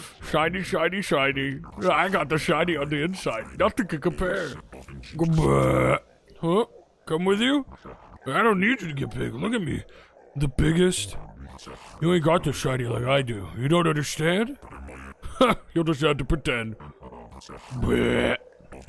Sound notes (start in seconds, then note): 5.6 burps; 16.6 burps